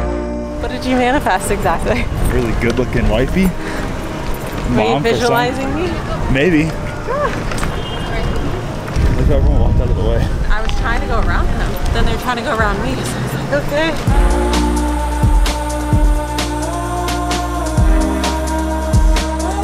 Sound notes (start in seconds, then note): 7.0 laughing; 7.3 passersby murmuring; 16.6 upbeat music continues